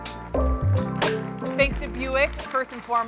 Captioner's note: audience clapping